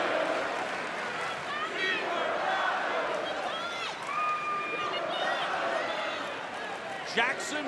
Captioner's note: crowd chatter